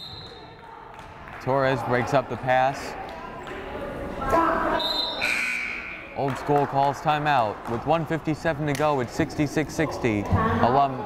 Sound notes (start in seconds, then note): 0.0 whistle blows; 4.8 whistle blows; 5.0 buzzer blares